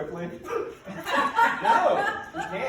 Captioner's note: people laughing